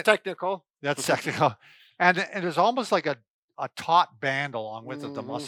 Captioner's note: laughs